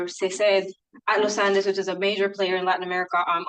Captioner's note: speaking in Spanish